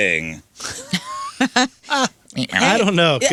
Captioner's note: laughing